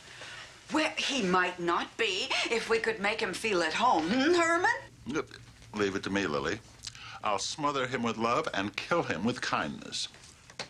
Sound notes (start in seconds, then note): none